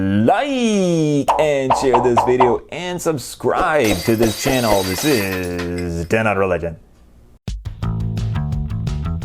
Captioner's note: glass breaking